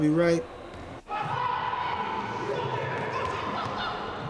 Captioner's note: game hubbub